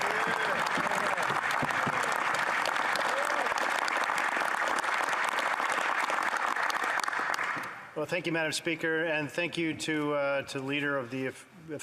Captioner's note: applause